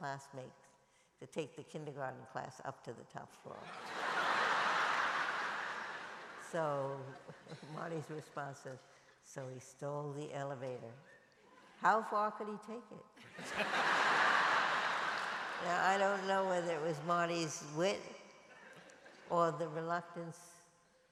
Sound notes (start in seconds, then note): 13.2 laughter